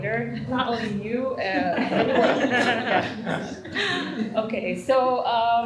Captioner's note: laughter